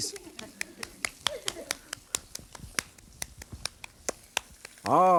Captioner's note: audience laughing; clapping burger patty in hand